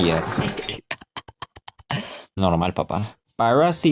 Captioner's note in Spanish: Risas